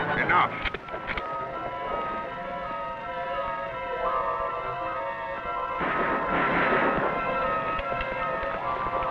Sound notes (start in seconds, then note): 5.7 guns blasting